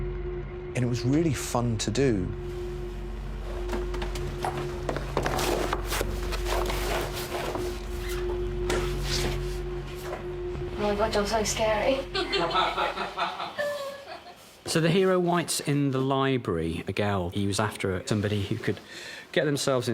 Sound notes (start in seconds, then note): 5.6 shuffling; 12.2 laughter